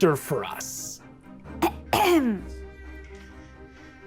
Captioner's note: clears her throat